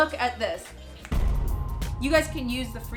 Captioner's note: snaps fingers; bangs